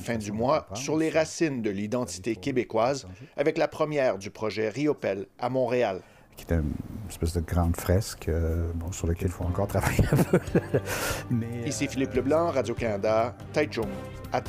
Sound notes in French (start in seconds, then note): 9.9 rire